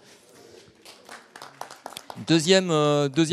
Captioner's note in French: Applaudissements